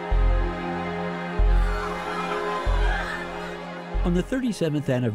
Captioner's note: screaming